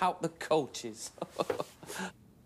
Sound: mr. perkins chuckles

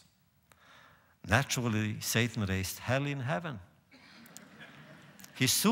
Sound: laughter

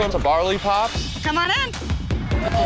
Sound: cheers

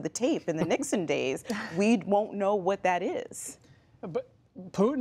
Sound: laughter

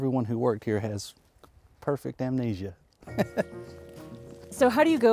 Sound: laughs

